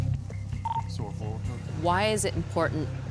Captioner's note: radio beeps